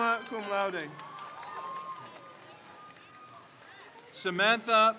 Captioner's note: crowd cheers